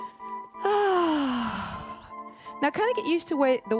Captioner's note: gentle music; sighs